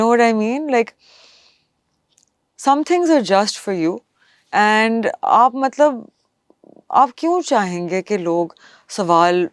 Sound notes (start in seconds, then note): 1.8 nasal sound